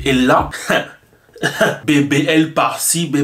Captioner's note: laughs